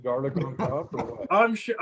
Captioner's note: laughter